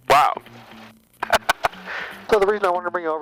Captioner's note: laughing